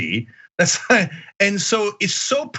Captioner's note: laugh